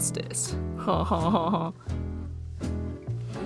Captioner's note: cue canned laughter